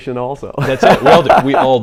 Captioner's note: laughs